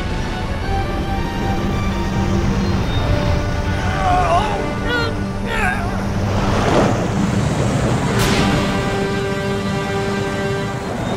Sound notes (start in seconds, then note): 0.1 ominous music; 5.4 grunting